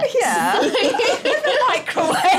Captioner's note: laughter